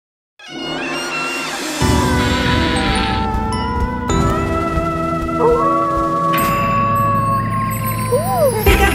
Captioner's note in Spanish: Aullido de lobo; Música Hallowen